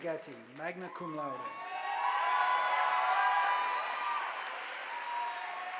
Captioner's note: audience applauding